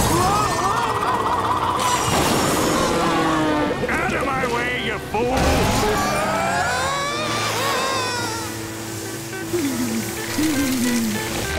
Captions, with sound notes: Oh oh oh! Out of my way, you fool! [screaming] [shivering]